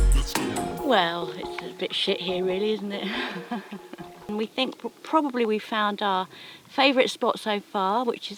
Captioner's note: laughs